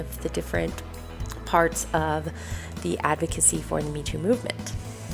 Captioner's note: breath out and in